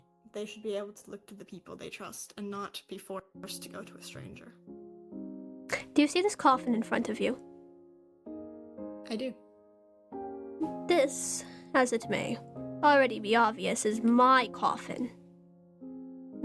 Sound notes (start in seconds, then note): none